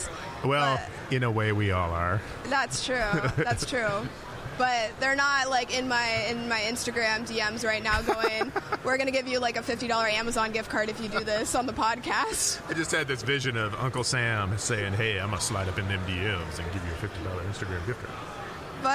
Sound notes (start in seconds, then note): 13.0 laughing